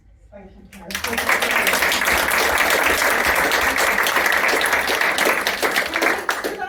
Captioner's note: applause